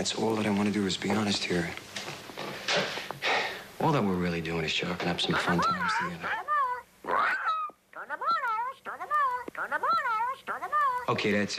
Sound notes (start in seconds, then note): 2.7 exhales